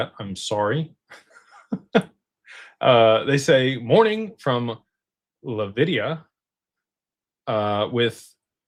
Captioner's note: laughter